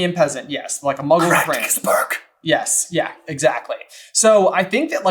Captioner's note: sotto voce